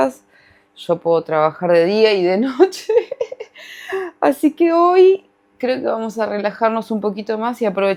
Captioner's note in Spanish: risas